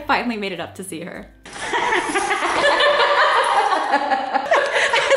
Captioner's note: laughing